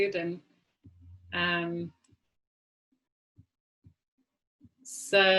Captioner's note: silence